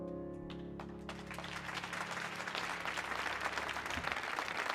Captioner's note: audience clapping